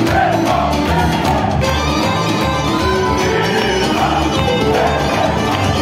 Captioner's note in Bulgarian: аплодисменти